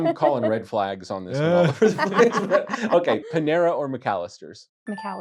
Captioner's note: laughter